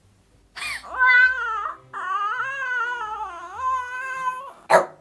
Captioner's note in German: greint und quengelt